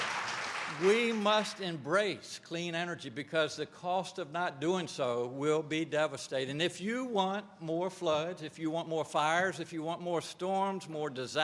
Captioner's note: applause